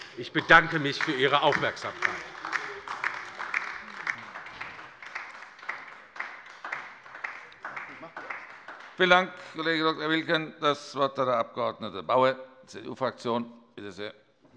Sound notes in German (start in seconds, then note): 2.7 Beifall bei der LINKEN